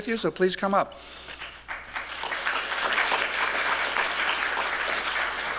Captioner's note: applause